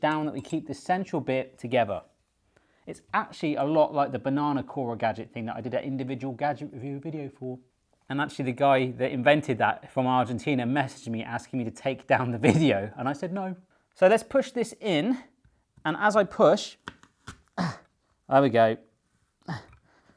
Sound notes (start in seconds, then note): 16.5 apple slicing; 18.7 grunting